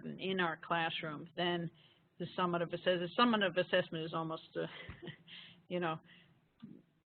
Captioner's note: laughing